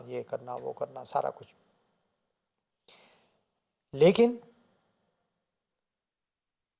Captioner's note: Farsi